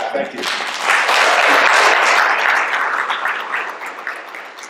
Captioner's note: applause